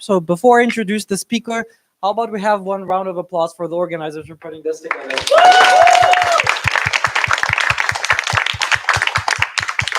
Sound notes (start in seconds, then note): 4.8 applause